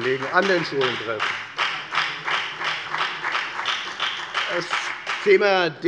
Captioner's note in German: Beifall bei der FDP